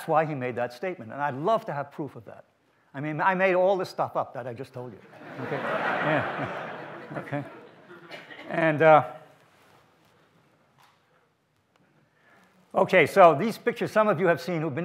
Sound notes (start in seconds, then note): 10.0 audience laughs